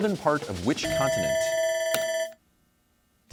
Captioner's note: bell ringing